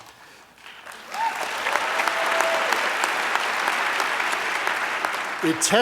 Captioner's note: applause